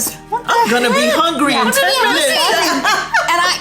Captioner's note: laughs